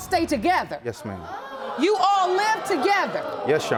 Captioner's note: audience gasping